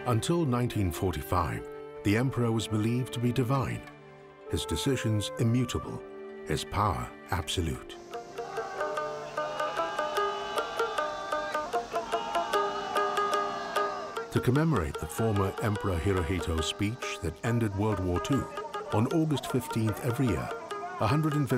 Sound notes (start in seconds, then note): 8.6 bright music; 11.2 people shouting in foreign language